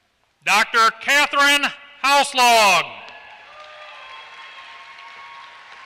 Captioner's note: applause